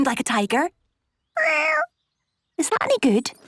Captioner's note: small meow